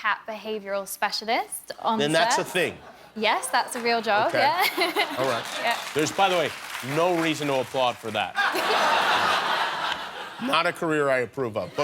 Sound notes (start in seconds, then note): 8.3 laughter